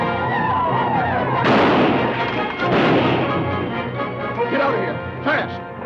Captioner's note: native Americans howl; guns fire